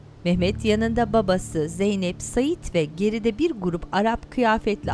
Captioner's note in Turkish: Kuş cıvıltısı sesleri